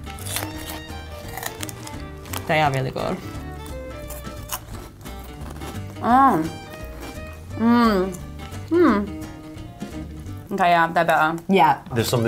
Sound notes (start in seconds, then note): 3.2 munching